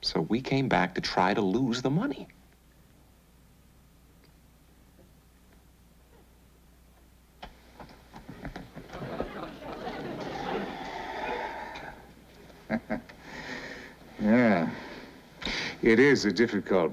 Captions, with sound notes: So we came back to try to lose the money. (CHUCKLES)